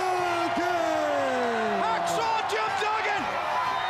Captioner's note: crowd cheering